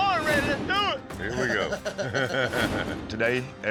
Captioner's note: chuckles